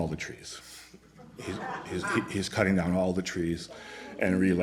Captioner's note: laughter